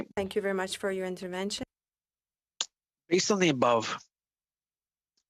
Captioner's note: speaking french